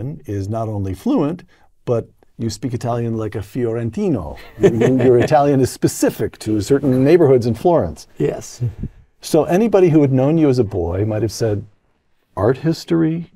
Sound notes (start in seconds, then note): 4.4 laugh